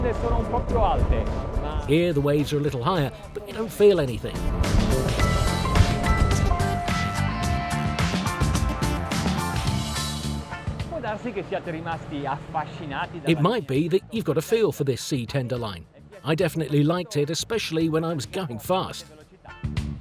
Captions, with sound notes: (speaks Italian) Here the waves are a little higher but you don't feel anything. (speaks Italian) It might be that you've got a feel for this C-Tender line, I definitely liked it, especially when I was going fast.